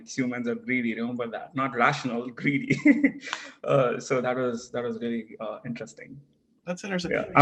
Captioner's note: laugh